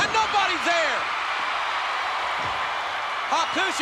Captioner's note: spectators cheering